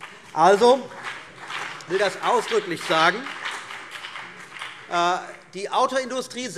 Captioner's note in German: Beifall CDU und BÜNDNIS 90/DIE GRÜNEN